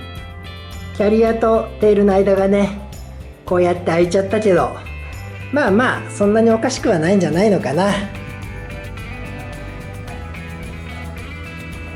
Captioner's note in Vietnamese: cười